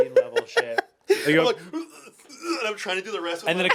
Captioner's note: Anthony grunts